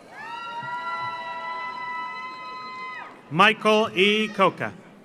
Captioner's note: audience cheers; audience applauds